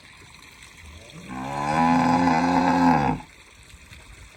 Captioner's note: cow mooing